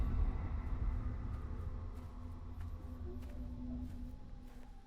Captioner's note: footsteps approaching